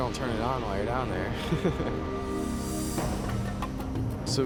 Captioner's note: chuckles